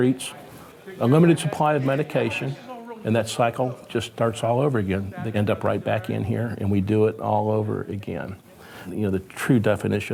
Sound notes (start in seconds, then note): none